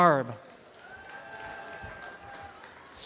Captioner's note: audience applause